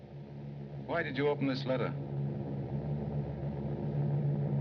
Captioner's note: airplane Engines Droning